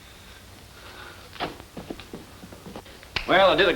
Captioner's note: foot Steps